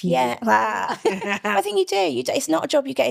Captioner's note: laughing